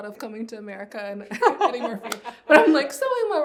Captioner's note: laugh